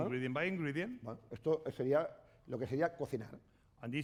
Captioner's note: speaking spanish